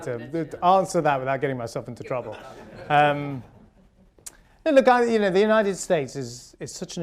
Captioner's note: laughter